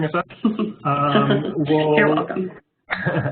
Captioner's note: laughter